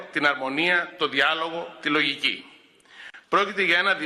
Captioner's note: none